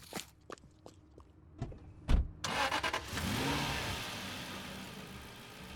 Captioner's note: car engine starting